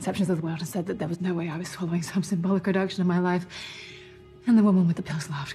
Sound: deep inhale

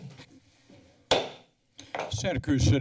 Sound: silence; gavel tap

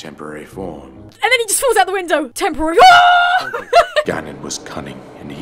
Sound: starts Laughing

